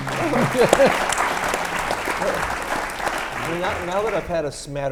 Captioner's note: audience claps